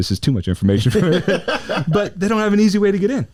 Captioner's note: laughs